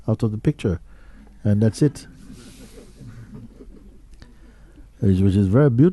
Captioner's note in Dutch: gelach